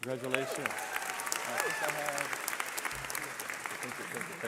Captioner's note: cheering